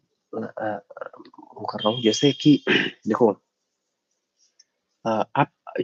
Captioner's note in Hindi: गला साफ़ करने की आवाज़